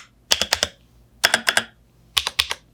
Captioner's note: typing